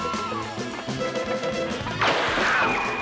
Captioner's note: gunshot